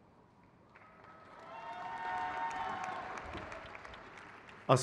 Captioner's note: crowd cheers